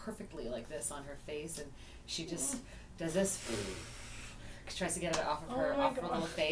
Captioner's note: blows